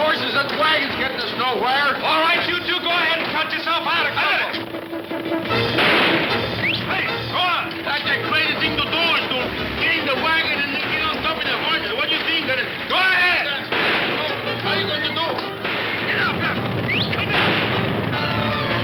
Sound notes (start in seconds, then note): 4.9 guns firing; 4.9 suspenseful orchestral music; 5.5 whistles; 13.6 gun fires; 16.7 whistles; 18.0 guns firing; 18.0 suspenseful orchestral music